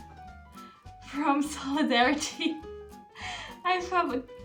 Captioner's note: Fycora starts giggling